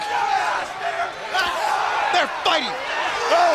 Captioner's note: crowd cheering; Ric exclaiming